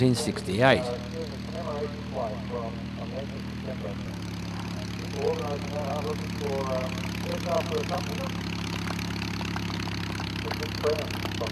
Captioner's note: aircraft sounds